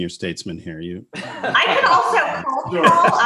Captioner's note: laughs